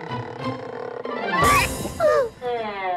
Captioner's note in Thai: เสียงร้อง